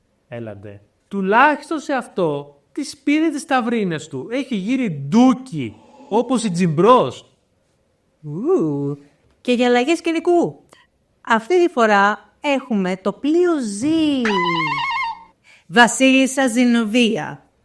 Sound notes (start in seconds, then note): 14.2 screams